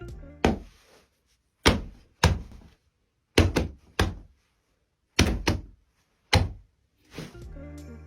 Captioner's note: boxing glove thuds